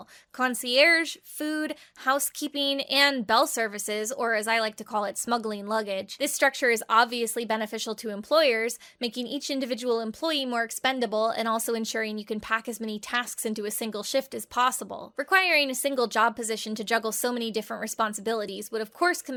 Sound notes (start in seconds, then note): none